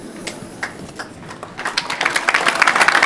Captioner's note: applause